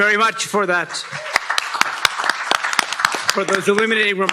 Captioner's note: applause